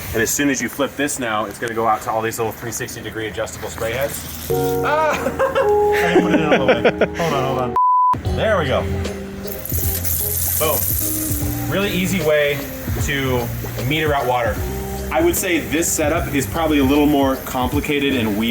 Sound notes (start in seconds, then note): 4.8 laughing; 4.9 camera man laughing; 7.6 beeping sound; 10.2 water splashing